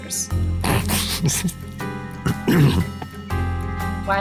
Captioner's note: laughs